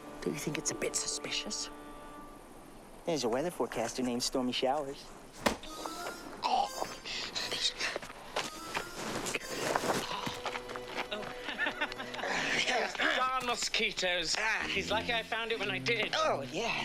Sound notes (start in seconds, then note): 6.9 Seymore gagging; 10.9 chuckling